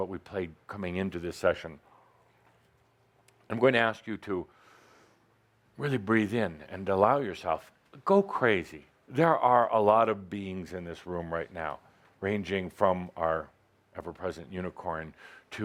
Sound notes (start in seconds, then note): none